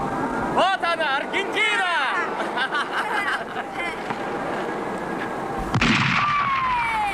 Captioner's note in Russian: смех